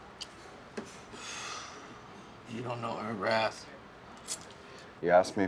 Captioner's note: sighs